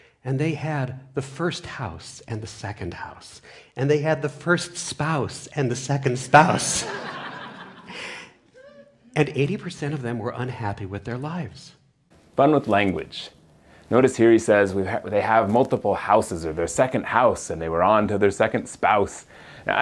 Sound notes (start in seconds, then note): 6.5 laughs